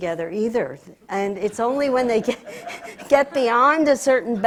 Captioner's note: laughs